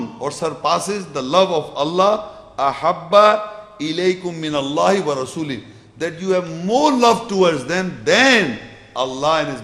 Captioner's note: Arabic